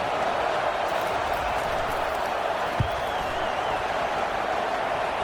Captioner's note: crowd Noises